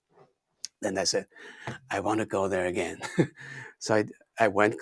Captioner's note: laughs